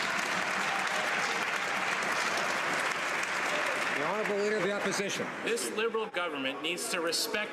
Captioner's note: some Applause